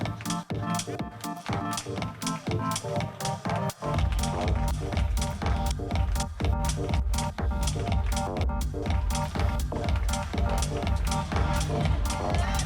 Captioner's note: applause; applause